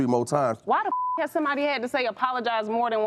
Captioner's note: beep